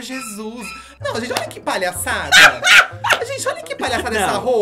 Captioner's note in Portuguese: gargalha